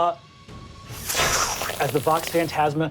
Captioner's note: imitates blast